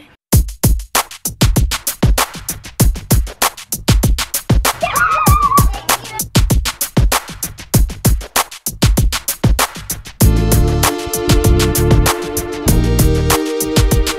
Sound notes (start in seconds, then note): 0.3 upbeat electronic music; 4.8 screams